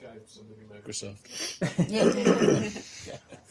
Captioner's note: laughter